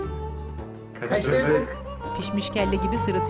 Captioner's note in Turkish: Hep bir ağızdan